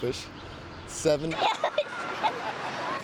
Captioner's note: giggling